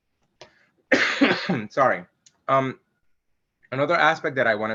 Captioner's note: coughs